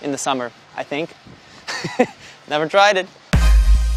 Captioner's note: laughs